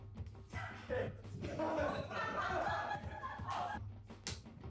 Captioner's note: laughter